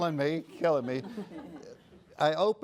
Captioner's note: laughter